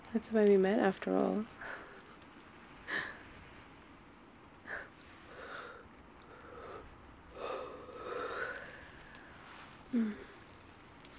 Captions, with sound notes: that's where we met after all *laughs* *yawns*